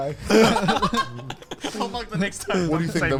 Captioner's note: all laugh